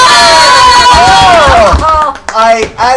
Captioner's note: cheering